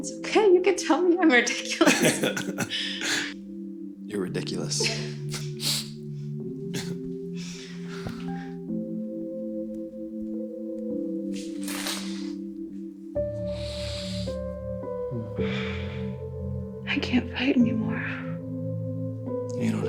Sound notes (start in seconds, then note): 1.8 both laughing; 6.7 gentle music